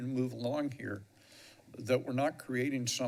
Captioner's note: inhales